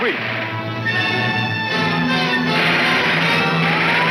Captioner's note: siren blaring; gunshots banging